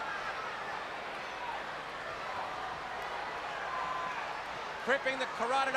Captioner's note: crowd chatter